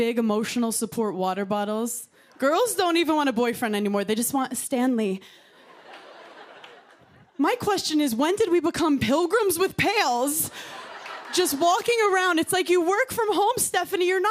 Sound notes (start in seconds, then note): 5.5 laughter